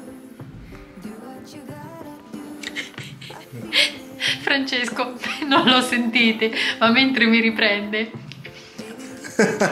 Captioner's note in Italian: Risate